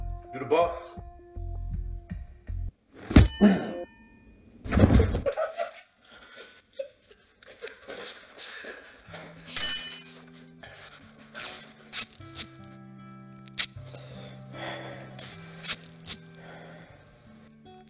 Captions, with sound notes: You the boss. [Powerful metal strike] [Male gasp] [Body hit floor] [Cory laughing] [Crowbar hit floor] [Removing tape sound] [Deep breathing]